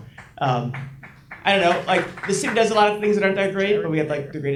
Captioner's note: audience applauds